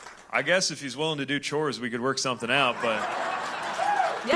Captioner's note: laughter